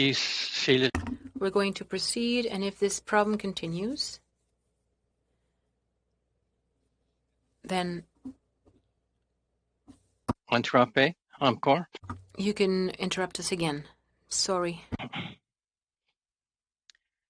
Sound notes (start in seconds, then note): 2.2 speaking French